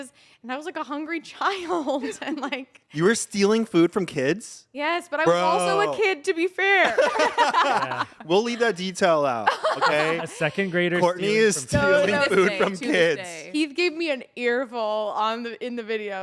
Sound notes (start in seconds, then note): 2.5 laughs; 6.8 everyone laughs